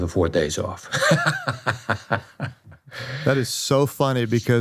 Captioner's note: laughs